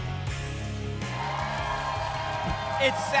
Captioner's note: applause and cheering